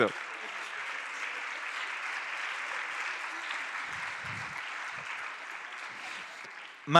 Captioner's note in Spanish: Aplausos